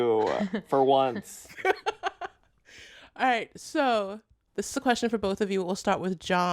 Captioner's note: laughter